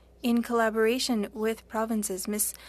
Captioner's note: speaking French